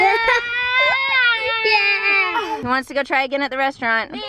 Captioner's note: yelling